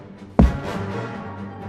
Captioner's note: thump